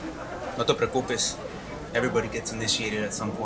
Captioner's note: speaks spanish